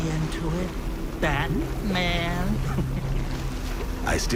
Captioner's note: chuckles